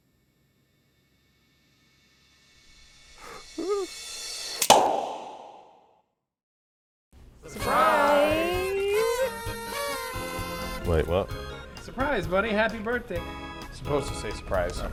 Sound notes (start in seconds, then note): 3.2 tracy wimpers; 4.6 corkscrew pops; 8.5 party kazoo noises; 9.5 lively music plays